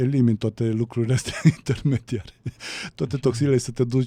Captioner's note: laughter